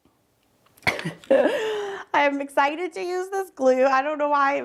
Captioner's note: laughs